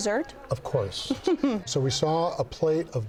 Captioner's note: chuckles